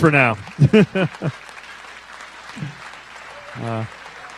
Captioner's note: cheers and applause